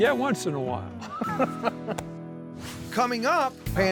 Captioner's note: both laughing